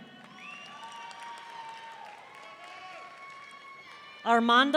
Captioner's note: audience cheering